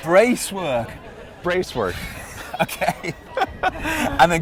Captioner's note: laughs